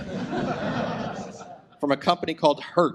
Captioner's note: audience laughs